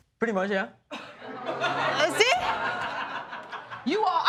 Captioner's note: audience laughing